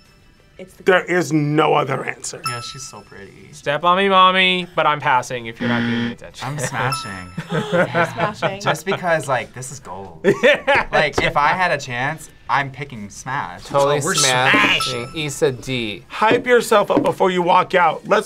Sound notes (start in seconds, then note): 7.9 gasps; 10.7 laughs